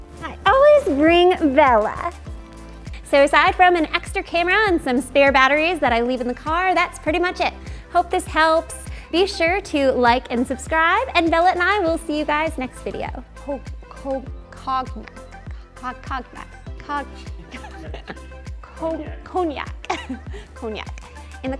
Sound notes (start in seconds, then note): 17.4 laughing